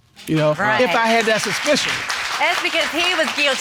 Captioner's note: audience applauding